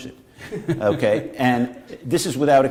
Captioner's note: laughter